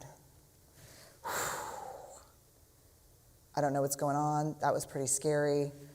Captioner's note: exhale